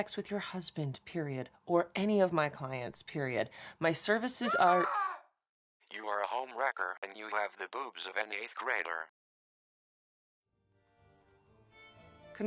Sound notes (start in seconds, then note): 4.7 phone ringtone shrieks; 5.9 phone Voice; 11.1 orchestral music begins